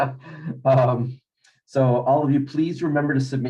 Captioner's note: chuckles